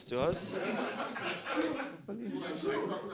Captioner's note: audience laughing